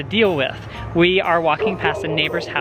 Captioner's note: barking